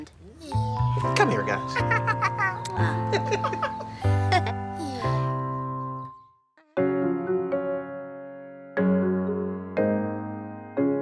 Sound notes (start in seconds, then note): 1.6 laughing; 6.7 gentle music